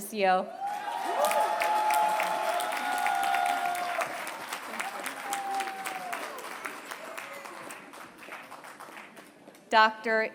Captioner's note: applause